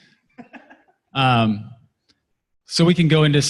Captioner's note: laughter